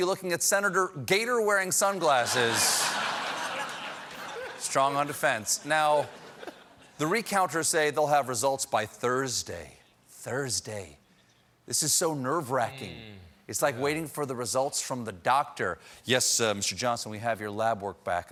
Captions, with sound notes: SUNGLASSES. ( LAUGHTER ) STRONG ON DEFENSE. NOW THE RECOUNTERS SAY THEY'LL HAVE RESULTS BY THURSDAY. THURSDAY... THIS IS SO NERVE-WRACKING, IT'S LIKE WAITING FOR RESULTS FROM THE DOCTOR. "YES, WE HAVE YOUR LAB WORK BACK, AND I'M SORRY... YOU HAVE